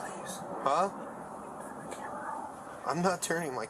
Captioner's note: whispering